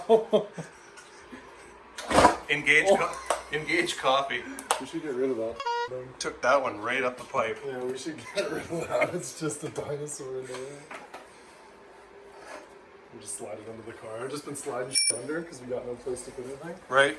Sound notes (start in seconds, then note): 0.2 laughing; 5.6 bonk